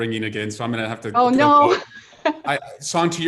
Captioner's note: laughs